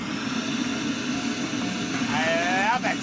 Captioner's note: whirring